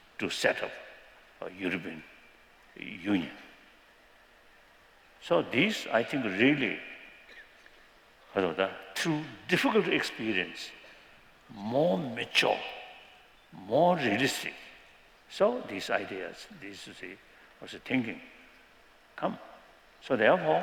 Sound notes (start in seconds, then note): 7.3 non-english